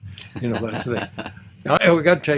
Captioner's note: laughs